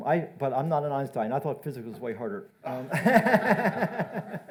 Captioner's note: laughs